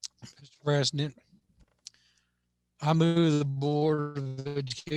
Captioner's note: radio interference